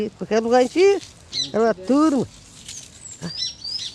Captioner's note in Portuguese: pássaros cantam ao fundo